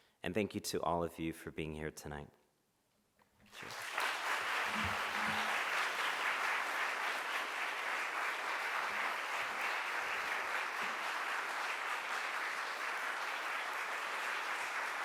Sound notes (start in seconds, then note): 3.9 audience applauding